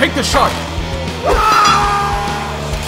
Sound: screaming

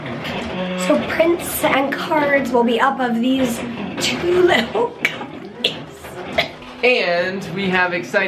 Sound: coughs

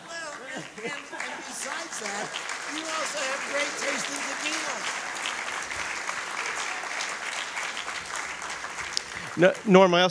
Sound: applause

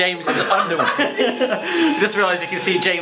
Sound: laughing

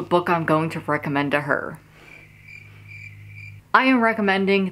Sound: crickets chirping

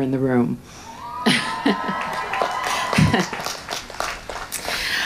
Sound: crowd cheers

